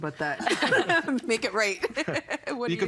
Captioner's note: laughing